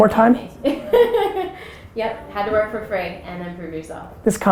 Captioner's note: laughs